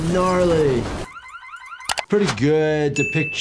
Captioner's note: car alarm blaring